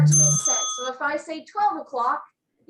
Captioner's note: bell rings